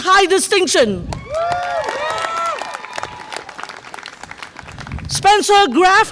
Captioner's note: audience applause and cheer